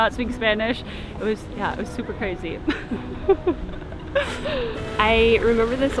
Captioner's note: chuckles